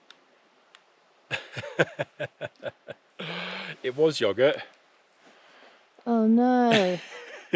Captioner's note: laughter